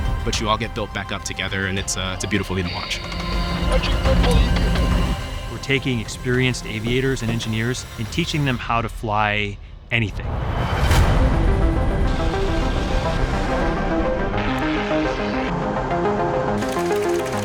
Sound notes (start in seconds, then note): 11.5 airplanes whirring; 11.5 dramatic music